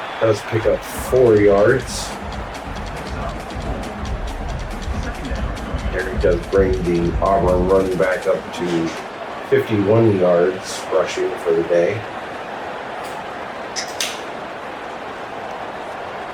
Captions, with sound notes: Does pick up four yards. [Crowd Noises] And he does bring the Obama running back up to 51 yards rushing for the day. [Crowd Noises]